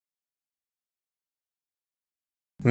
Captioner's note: muted